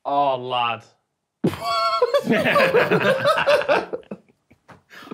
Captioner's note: group laughing